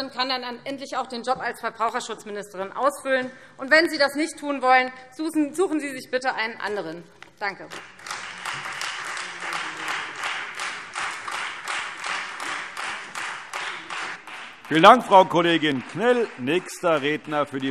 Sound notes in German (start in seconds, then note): 7.6 Beifall Freie Demokraten und vereinzelt SPD